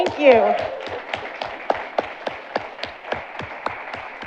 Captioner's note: audience applauding